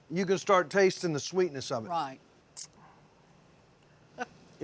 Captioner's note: none